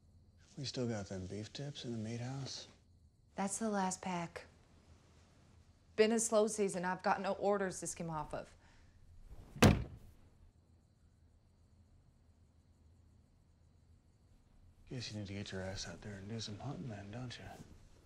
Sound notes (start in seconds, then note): 9.4 shoes thudding